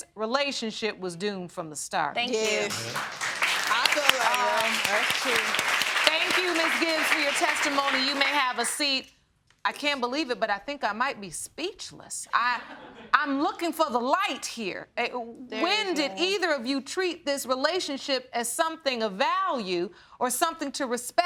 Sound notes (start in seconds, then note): 4.4 applause